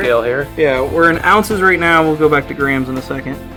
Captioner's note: voiceover